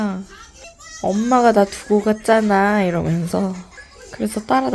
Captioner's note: tired voice